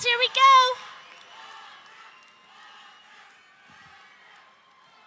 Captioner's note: audience cheering